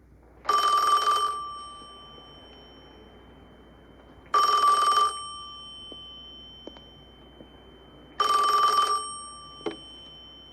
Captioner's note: phone ringing